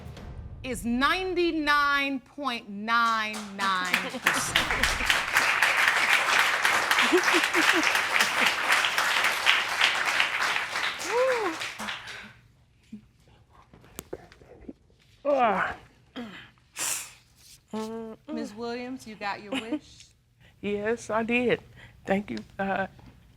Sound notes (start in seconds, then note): 5.0 audience applauding; 6.4 chuckling; 16.4 sobbing